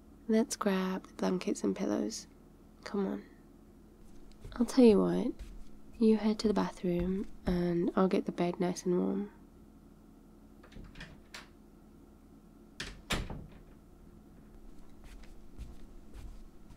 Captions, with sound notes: let's grab the blankets and pillows, come on *footsteps* I tell you what, you head to the bathroom and I'll get the bed nice and warm *door opens and closes - fast forward* *footsteps*